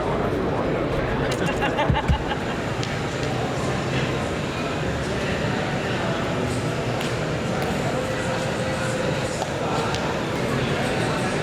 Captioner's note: the buzz of a convention floor